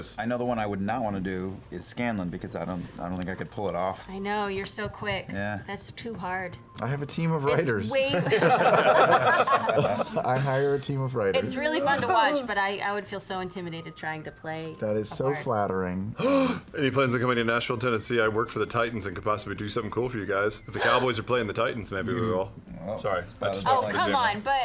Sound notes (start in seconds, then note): 8.1 laughter; 16.1 gasps